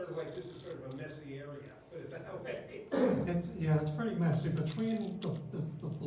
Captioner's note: laughter